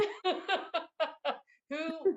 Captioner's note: laughing